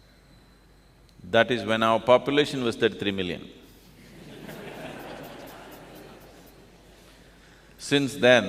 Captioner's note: laughter; 笑聲